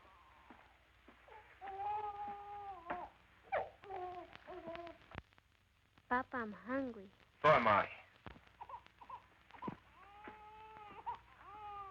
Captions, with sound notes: [baby crying] Papa, I'm hungry. So am I. [baby crying]